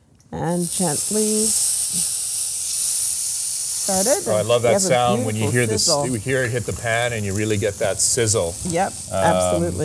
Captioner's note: sizzling